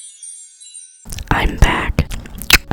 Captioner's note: whispering